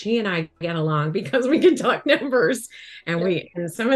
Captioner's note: chuckles